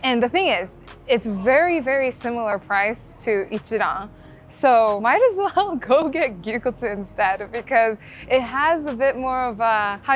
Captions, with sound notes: And the thing is, it's very, very similar price to (speaking Japanese). So might as well go get gyuniku instead because it has a bit more of a,